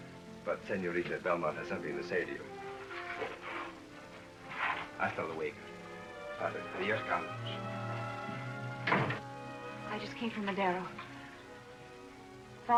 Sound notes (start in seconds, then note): 5.0 spanish; 8.8 door shuts